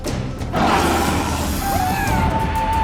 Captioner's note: maiden 1 growls; Wally screams